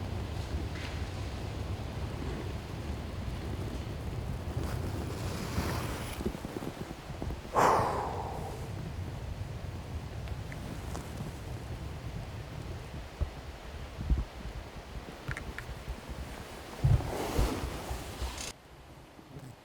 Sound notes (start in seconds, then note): 7.5 loud exhale